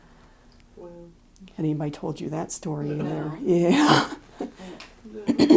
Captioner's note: chuckle